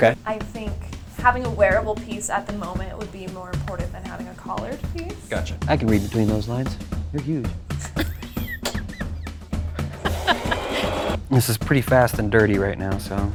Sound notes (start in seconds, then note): 7.7 laughing; 10.0 sewing machine whirring